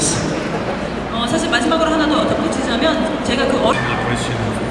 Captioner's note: speaking Korean